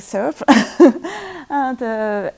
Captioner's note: laughs